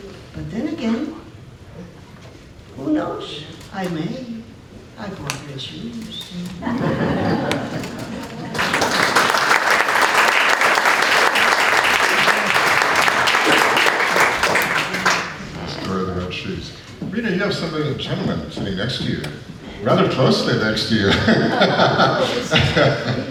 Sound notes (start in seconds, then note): 8.5 applause